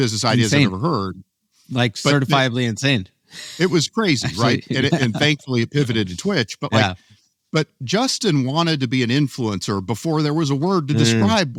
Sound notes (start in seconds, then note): 4.2 laughs